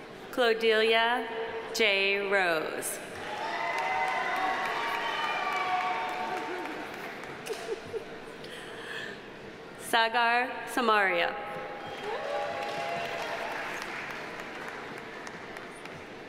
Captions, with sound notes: Claudeliah J. Roze. (audience applauding) (audience cheering) Sagar Samaria. (audience applauding)